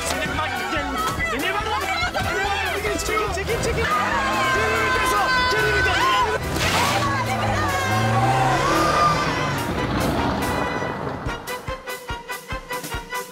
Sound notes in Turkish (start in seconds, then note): 3.5 Çığlık atıyorlar; 4.8 Bağrışmalar